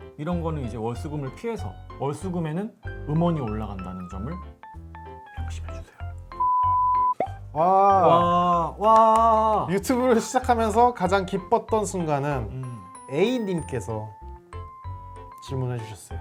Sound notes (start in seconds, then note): 8.9 clapping